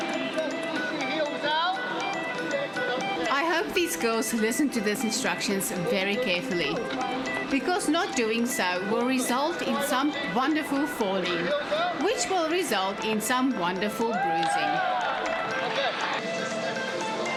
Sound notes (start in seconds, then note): 3.2 narrating